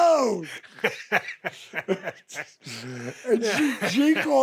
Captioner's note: Steve laughs